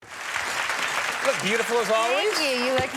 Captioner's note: audience applauding